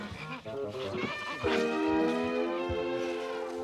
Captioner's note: elephant trumpeting